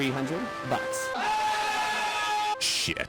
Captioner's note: agonized cry